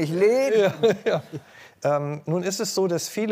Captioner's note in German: Lachen